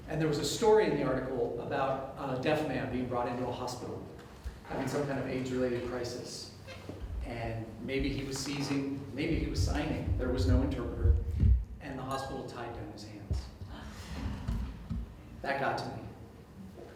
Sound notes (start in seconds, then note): 13.7 audience Gasps